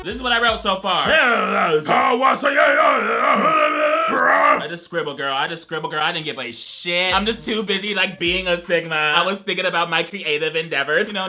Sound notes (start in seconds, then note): 1.1 rhythmic growling and grunting